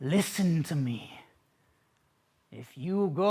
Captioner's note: silence